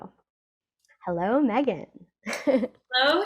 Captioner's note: laughs